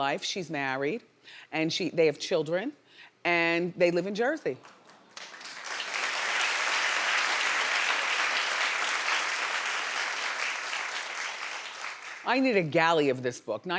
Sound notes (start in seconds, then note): 4.6 audience applauding